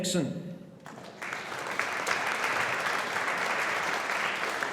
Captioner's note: audience applauding